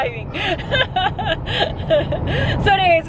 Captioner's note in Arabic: كلاهما يضحك